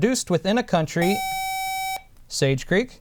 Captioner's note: buzzer